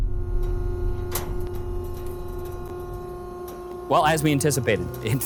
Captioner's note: machine whirring